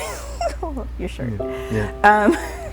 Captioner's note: laughs; starts laughing